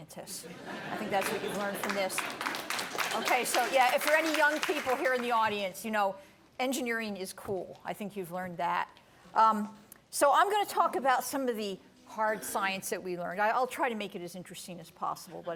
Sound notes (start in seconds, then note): 0.4 laughter; 1.1 light applause